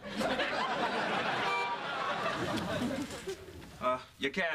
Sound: horn honks

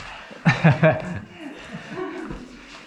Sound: laughing

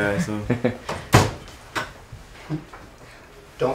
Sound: laughs; door shuts and locks

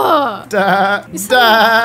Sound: laughs

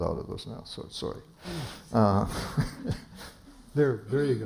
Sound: laughter

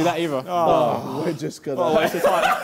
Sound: both booing

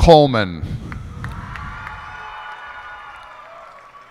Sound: cheers and applause

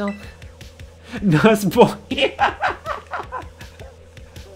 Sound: unable to finish sentence due to laughter

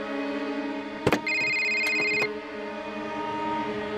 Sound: cell phone ringing

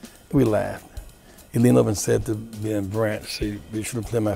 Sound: claps his hands

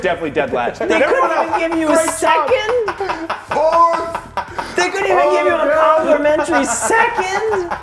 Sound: laugh

